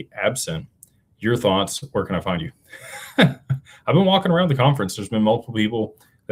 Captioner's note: laughter